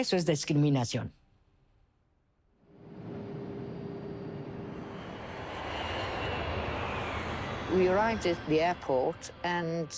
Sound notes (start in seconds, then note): 2.8 engine hums